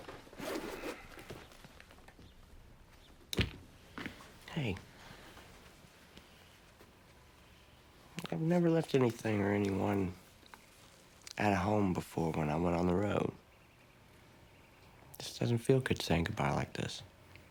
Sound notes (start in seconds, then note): none